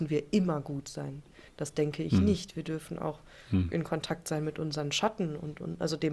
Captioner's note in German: räuspern